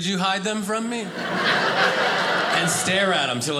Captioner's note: audience laughing